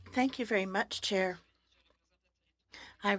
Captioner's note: speaking French